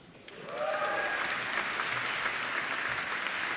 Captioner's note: applauding